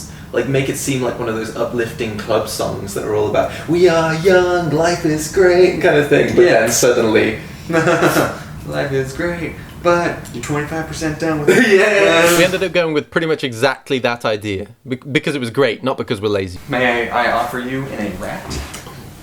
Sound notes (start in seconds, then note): 3.5 singing; 7.6 laughs; 8.6 singing; 11.4 laughs